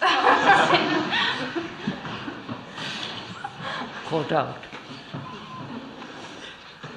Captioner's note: laughter